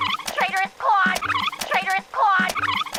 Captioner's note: tape rewinds